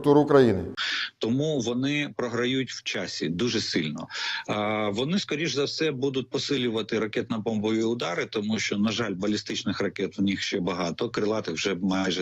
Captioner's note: in Ukrainian